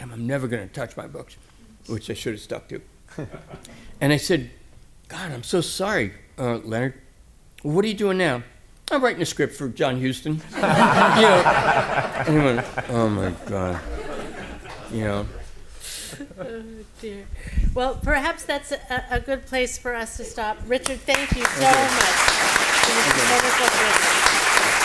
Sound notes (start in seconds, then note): 10.4 laughter; 20.8 applause